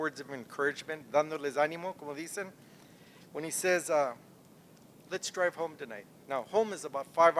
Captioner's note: non-english speech